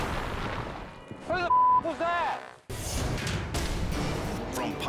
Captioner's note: beep